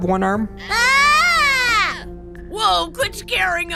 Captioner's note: screams